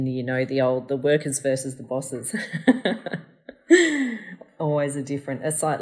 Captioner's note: laughs